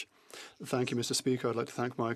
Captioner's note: speaking French